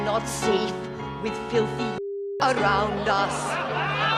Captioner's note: all laughing